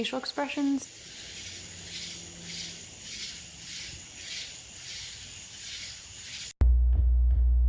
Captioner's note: crickets